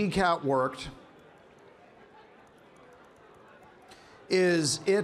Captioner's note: keyboard clanking